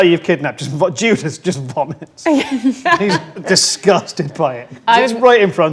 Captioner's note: laughs